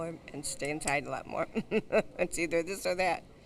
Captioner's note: laughs